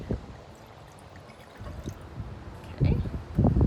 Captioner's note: wine glugging